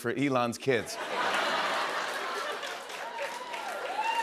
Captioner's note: cheers and applause